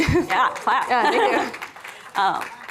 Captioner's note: applause